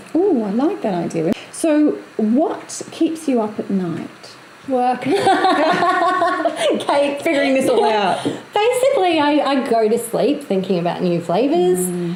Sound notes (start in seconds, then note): 5.0 laughs